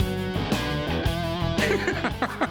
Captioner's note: laughs